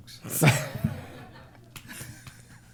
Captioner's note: laughter